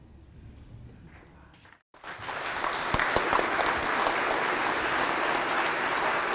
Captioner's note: applause